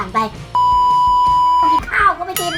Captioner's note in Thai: เสียงเอฟเฟกต์